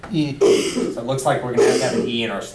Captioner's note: voiceover